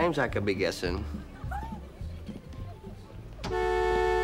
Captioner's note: giggling